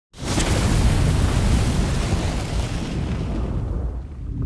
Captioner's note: burning sound